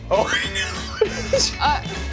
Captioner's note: laughs